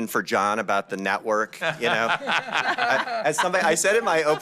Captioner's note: laughter